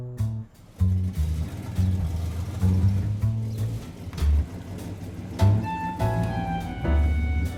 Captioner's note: engine purring; groovy upbeat music